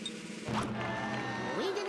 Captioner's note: crowd jeering